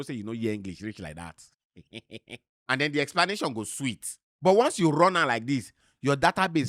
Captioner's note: chuckles